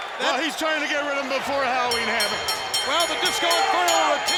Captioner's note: bell rings